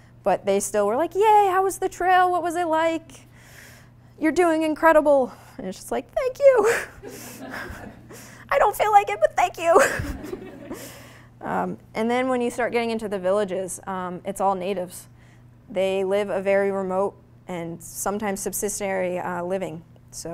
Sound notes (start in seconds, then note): 6.9 audience laughing; 9.8 audience laughing